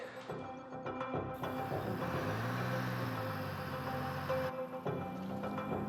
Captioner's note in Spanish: ruidos del camión